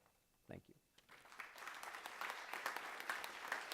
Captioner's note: applause